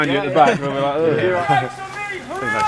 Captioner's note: drill instructor voiceover